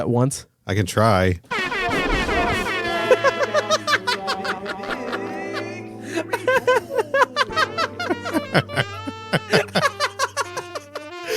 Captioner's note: cacaphony of SFX